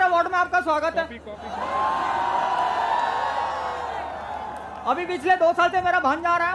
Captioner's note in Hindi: चियरिंग